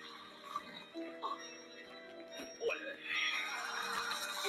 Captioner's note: men vocalizing; audience cheering